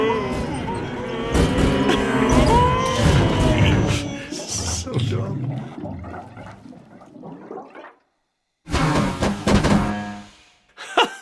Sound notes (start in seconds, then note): 5.6 fluid gurgling; 8.6 purrrt